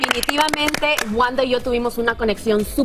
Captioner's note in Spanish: aplausos